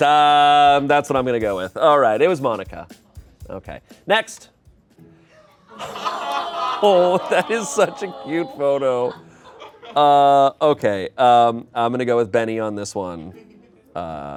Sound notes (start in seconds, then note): 5.7 crowd exclaims